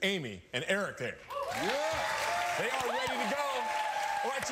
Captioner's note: cheering